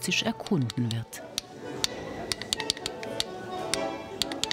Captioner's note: rhythmic clattering